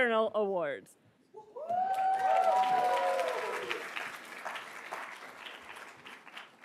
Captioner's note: attendees cheering and applauding